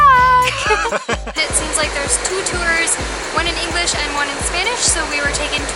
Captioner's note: laughter